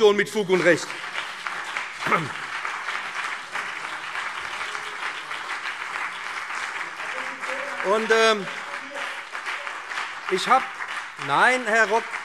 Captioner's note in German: Beifall